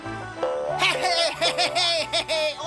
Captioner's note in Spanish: ríe